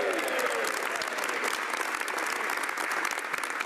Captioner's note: speaking French